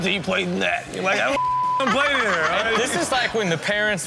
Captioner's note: beep; audience laughs